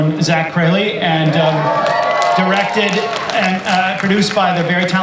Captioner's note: audience cheers